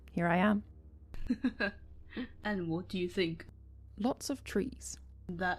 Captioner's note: James laughs